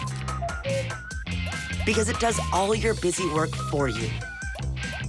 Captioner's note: card reader beeps